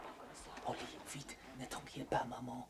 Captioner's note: speaking french